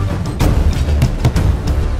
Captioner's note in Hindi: दस्तक